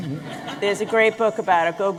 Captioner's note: laughter